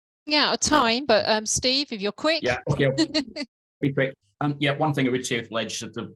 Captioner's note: chuckles